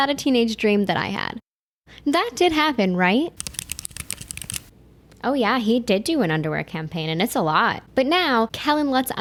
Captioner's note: typing